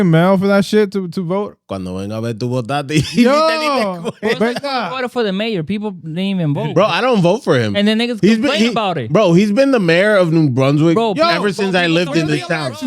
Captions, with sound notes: mail for that shit to vote. (Speaking Spanish) I voted for the mayor. People didn't even vote. Bro, I don't vote for him. And then they just complain about it. Bro, he's been the mayor of New Brunswick. Ever since I lived in the town.